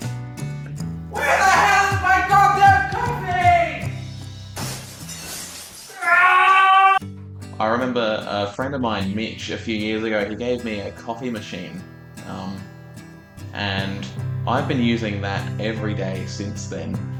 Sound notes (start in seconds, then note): 4.5 glass breaking